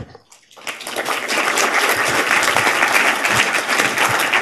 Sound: audience applauding

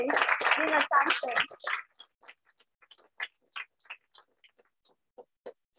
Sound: applause

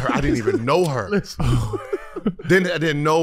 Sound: laughs

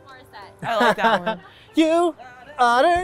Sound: laughs

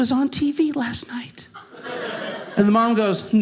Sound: audience laughing

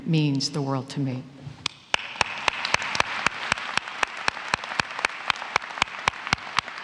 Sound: applause

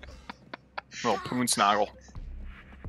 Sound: laughs

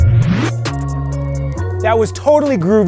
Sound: fire crackling

